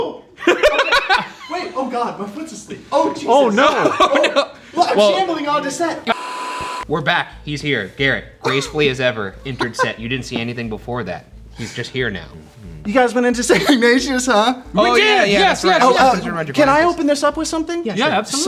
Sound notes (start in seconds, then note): 0.4 laugh; 3.6 laughs